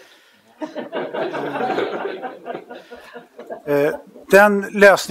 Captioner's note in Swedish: Skratt